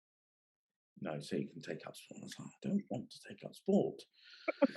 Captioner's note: laughing